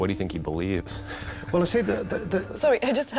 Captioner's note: stammering; chuckling